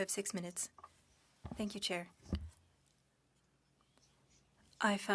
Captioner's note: speaking French